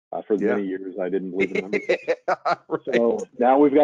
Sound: laughing

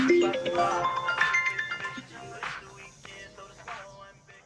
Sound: phone ringing

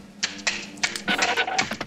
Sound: claws clacking

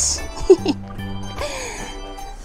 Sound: laughs

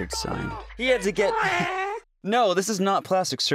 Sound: cat sounds

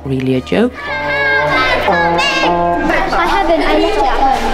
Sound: overlapping chattering

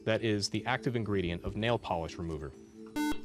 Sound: buzzer

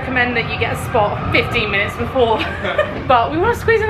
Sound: laughs

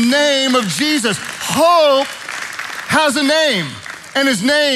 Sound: congregation applauding

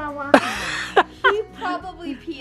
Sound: laughs

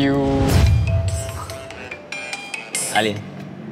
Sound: phone ringing

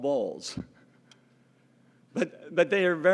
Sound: laugh

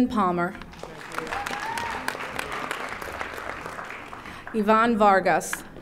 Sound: audience applauding

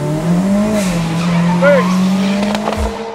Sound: car squeals; car engine roars

